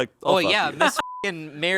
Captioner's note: beep